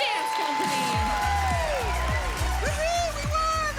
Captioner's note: cheering and applause